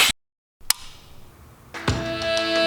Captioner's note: whoosh; light clicking on; upbeat music